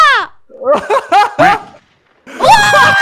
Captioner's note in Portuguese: rindo